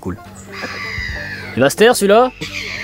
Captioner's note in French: bruit d'oiseau